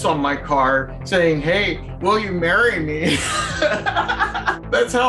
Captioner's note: laughs